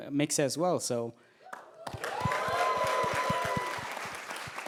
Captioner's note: cheers